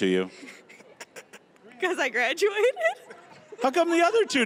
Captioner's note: laughing